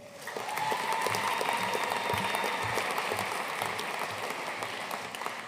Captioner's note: audience cheering and applauding